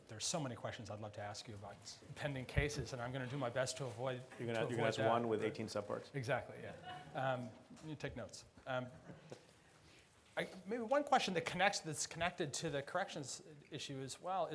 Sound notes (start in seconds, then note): 8.8 laughs